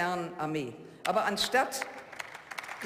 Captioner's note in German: Beifall